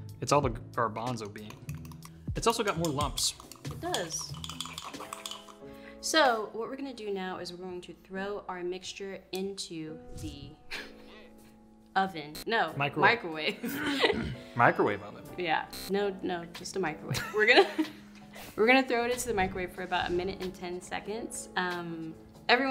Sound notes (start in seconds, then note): 9.8 whoosh noise; 10.7 chuckles; 12.3 screen buzzes; 13.5 laughs; 13.9 clears throat; 15.7 screen buzzes; 17.1 both laughing